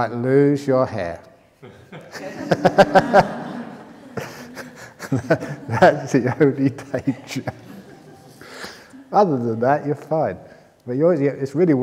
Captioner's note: laughter